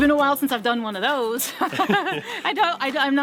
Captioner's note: laughs